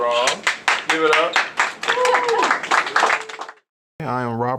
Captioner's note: applause